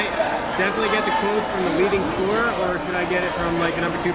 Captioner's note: yelling